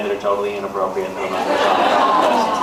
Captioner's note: laughs